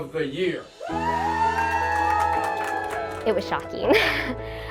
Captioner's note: cheers and applause